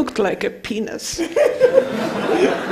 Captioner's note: laughing